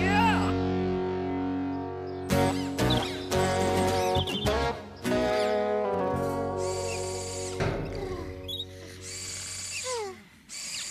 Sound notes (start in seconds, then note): 7.3 soft Snores & Clangs